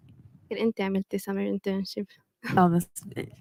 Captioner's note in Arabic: لغة أجنبية